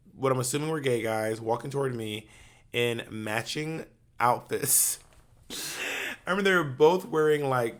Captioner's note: chuckles